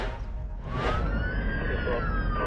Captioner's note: sirens